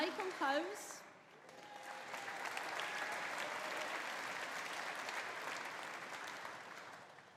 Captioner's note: audience applauding; audience cheering